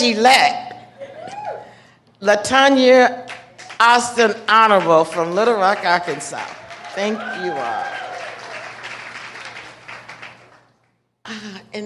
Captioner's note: laughter